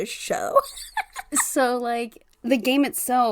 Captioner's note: laughs